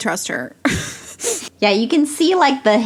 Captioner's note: laughs